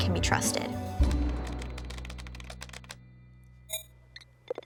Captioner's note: typing